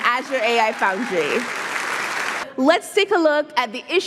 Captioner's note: audience applauding